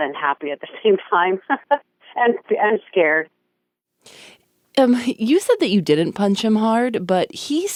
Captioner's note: laughs